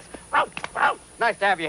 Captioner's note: barking